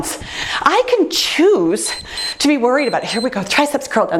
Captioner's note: timer beeps